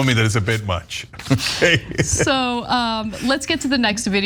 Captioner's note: laugh